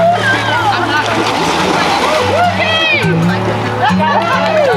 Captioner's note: water splashing